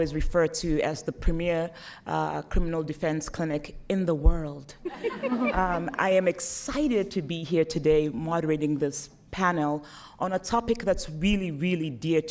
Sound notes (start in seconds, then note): 4.8 laughter